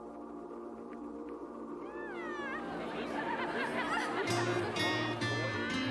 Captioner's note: background chatting